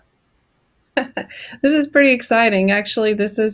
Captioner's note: giggles